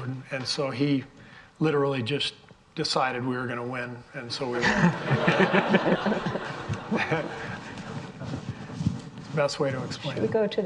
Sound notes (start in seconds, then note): 4.5 all laughing